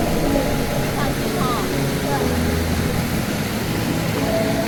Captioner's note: sound of flowing water